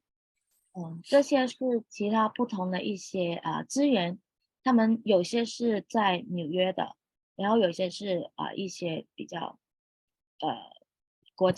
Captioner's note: speaking chinese